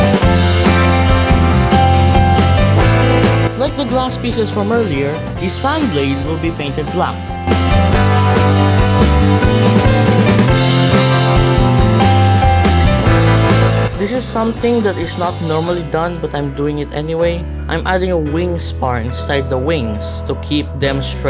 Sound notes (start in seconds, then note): none